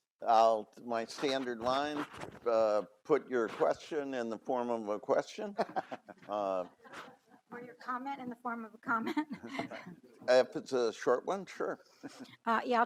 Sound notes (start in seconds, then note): 8.9 giggles